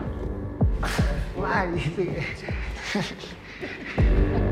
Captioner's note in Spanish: Riendo